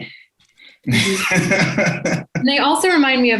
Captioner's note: laughs